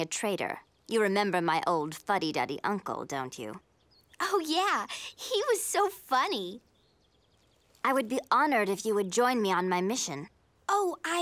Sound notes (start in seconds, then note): none